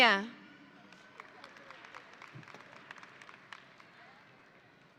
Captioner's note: audience applauding